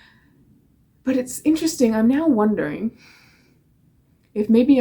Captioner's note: exhales